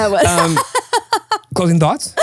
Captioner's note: laughing